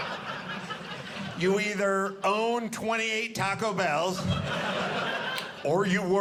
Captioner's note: audience laughing